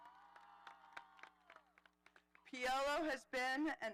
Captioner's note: audience applauding